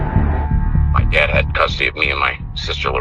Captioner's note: on phone